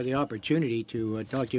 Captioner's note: speaking French